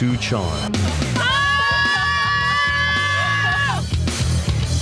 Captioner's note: girls screaming